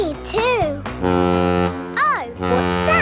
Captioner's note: horn bellowing